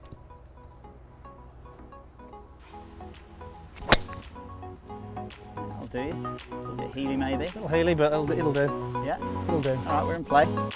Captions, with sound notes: (peaceful music) (golf club swinging) - Bit of a heely maybe. - Little heely, but it'll do. - Yeah. - It'll do.